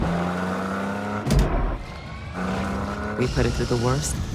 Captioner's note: engine revving